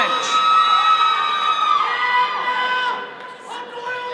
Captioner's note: all cheering